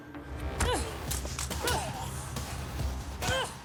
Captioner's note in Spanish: golpes